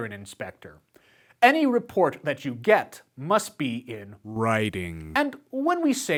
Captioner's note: writing